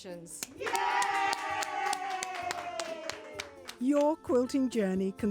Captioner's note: group cheering